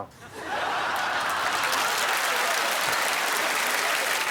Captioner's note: audience laughing and clapping